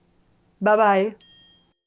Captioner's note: wink dings